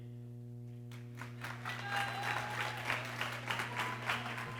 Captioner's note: people cheering